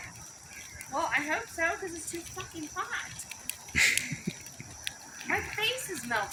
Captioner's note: laughing